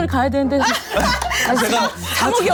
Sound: haha

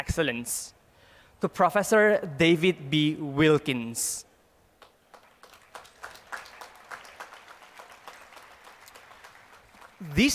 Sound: applause

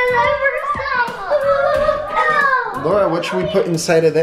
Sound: children exclaim

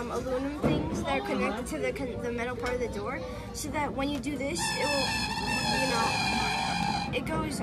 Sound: alarm sounds

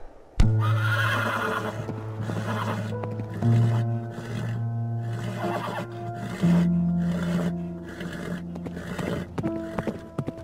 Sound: more gasping

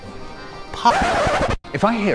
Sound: record scratch

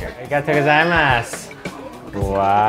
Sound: speaks in foreign language

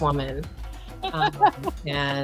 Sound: laughing

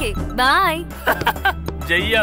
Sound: laughs

